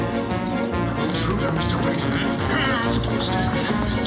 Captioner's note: clears throat